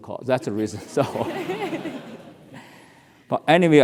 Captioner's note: laugh